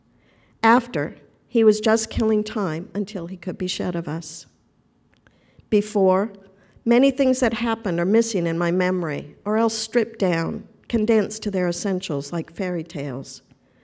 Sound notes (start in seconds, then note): none